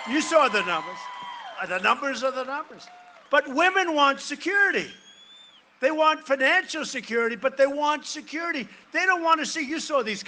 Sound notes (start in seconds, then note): 0.0 cheering and applause